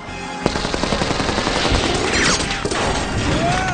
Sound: fires bullets

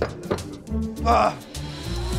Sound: groaning

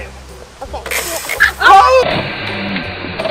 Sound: crocodile closes and sprays

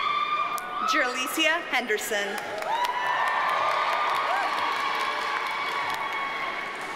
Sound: audience cheers and applauds

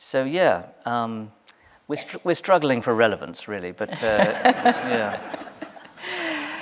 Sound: laughter

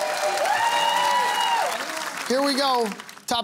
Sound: cheering

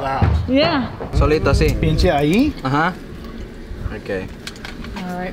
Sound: speaking in foreign language

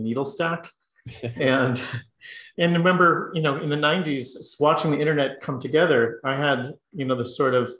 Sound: laugh

